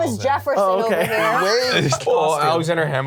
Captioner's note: laughs